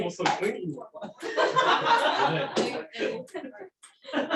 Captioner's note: laughter